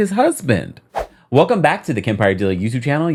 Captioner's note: air whooshing